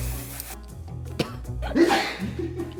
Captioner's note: coughs; laughs